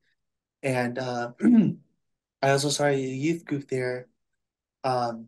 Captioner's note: clears throat